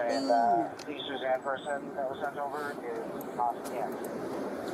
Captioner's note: radio chatter